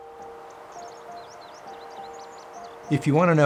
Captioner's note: birds chirping; contemplative music